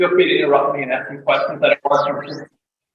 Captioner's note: audio breaks